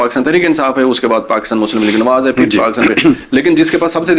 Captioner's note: clears throat